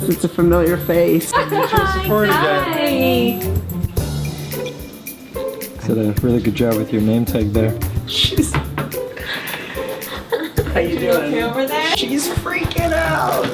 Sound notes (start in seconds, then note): 1.2 laughs; 8.0 laughs; 9.7 crying